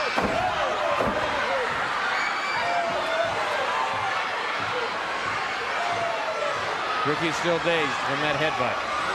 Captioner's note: crowd cheering